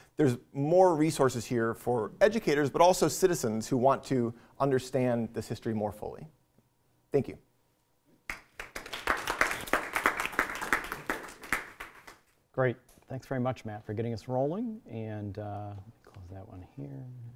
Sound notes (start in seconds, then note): 8.2 applause